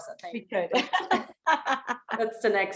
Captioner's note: laughs